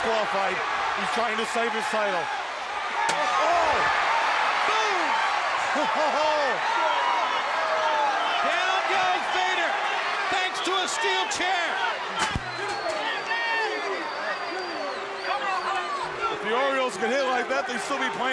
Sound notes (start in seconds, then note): 3.8 crowd cheering; 11.3 crowd chatter